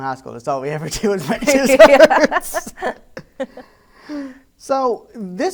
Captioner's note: laughs